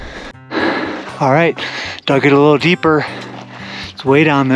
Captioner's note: sighing